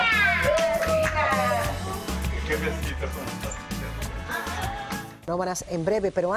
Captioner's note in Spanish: risas